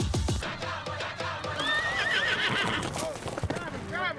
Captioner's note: horse neighs